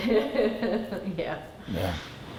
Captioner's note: laughs